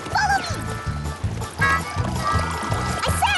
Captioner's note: patter!